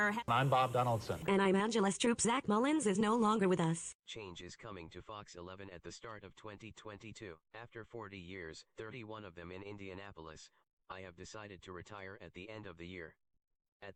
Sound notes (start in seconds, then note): 5.1 on TV